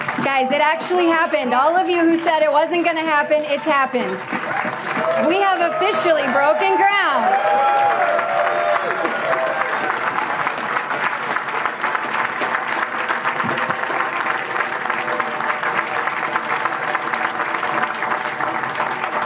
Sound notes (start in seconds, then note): 5.7 applause; 11.1 applause